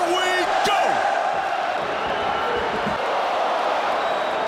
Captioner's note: crowd chanting "Ole, Ole, Ole"